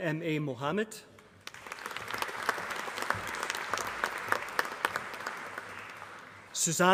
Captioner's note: applause